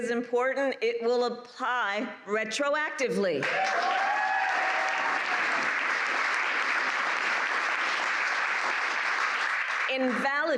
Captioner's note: applause